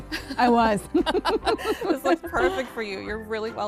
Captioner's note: laughing